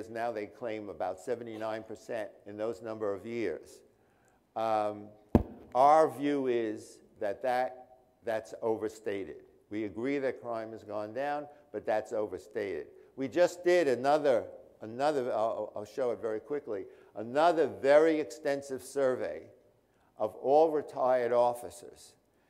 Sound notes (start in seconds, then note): none